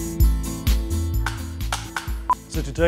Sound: clapperboard clicking

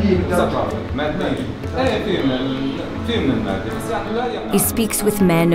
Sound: speaking foreign language

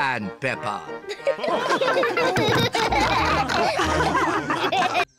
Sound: chuckles; all laugh

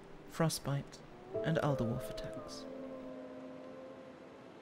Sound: distant howling

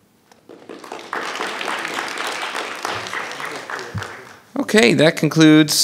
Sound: audience applauding

